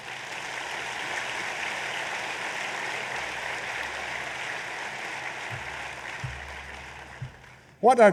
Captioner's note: applause